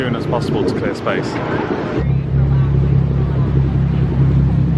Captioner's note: ship motors running